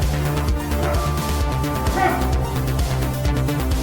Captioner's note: shouts